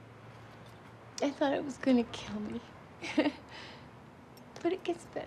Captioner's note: chuckles